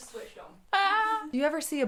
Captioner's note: laughs